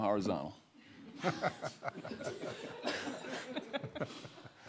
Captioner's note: audience laughing